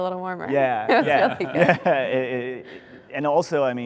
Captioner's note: both laughing